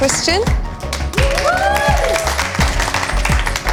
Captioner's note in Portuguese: Aplausos